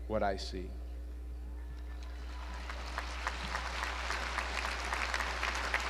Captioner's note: audience applauds